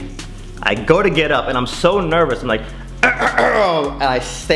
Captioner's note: clears throat